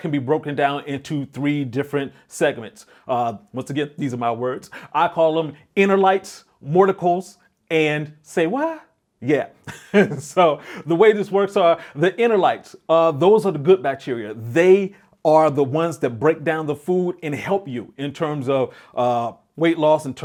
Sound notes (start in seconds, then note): 9.6 laughing